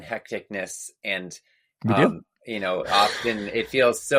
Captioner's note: laughs